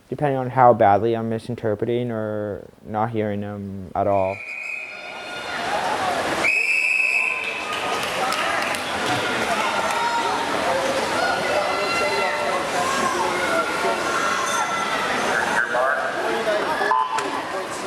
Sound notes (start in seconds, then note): 2.2 whistle